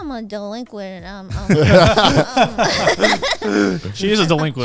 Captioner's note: everyone laughing